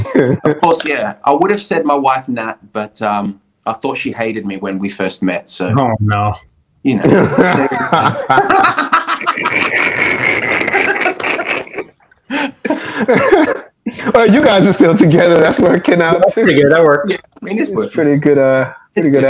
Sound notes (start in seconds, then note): 7.0 raucous laughter